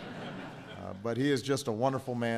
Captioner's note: laughter